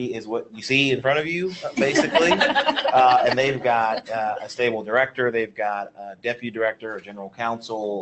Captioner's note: laughs